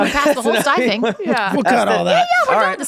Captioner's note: Glenn laughing